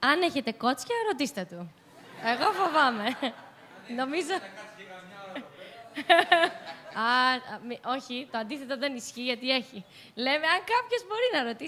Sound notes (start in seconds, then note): 1.8 laughs